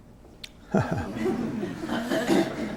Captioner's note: laughter